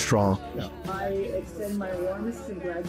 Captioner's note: voice from the loudspeaker